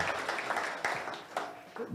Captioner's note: audience applauds